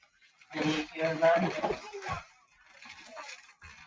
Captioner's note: chairs shuffling